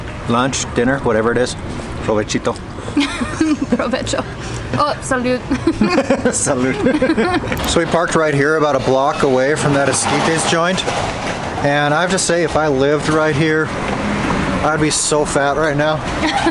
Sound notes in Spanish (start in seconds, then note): 0.0 Risas